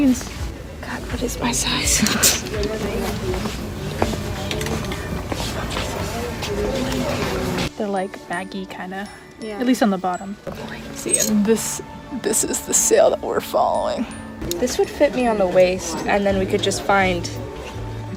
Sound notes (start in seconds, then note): 0.3 exasperated; 2.4 pfft